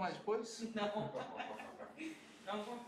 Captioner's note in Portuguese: risos